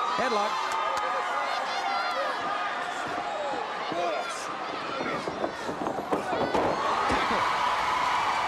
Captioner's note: crowd cheering